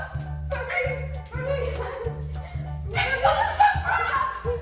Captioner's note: kids yelling